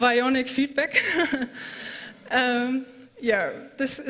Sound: laughter

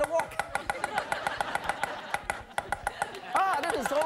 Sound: rhythmic chopping; laughing

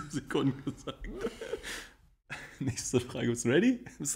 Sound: laughs

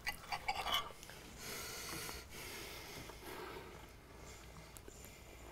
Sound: chewing

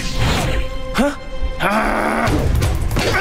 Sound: growling

